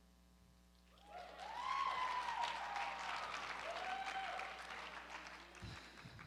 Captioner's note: cheering